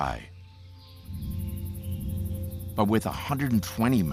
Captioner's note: birds chirping